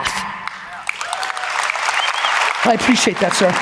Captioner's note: audience applauds